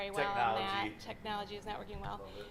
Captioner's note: voiceover